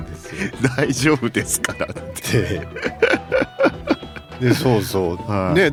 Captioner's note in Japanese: 笑い